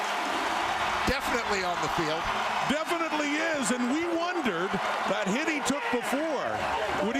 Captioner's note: crowd Noise